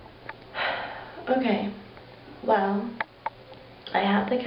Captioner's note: sighs